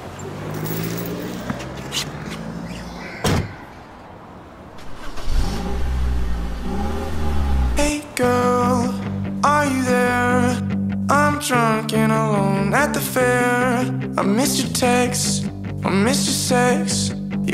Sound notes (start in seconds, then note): 3.2 car door closes; 4.7 engine starts